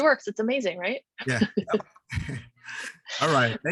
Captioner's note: chuckles